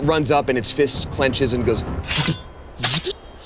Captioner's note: sputters